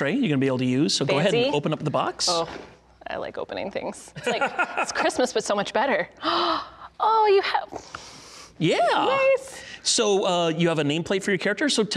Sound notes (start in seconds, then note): 4.2 laughing; 6.1 gasping